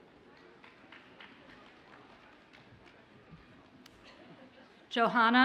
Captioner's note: audience applauds faintly